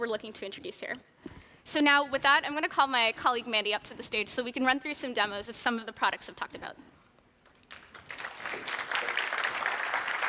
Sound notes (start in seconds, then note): 7.5 applause